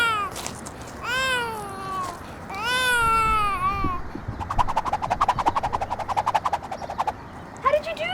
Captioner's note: crying contnues, swishing sounds, then crying stops